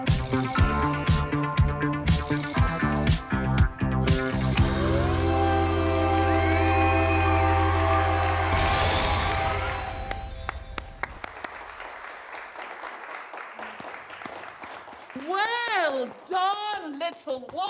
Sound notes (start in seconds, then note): 6.2 crowd cheering; 10.2 sporadic clapping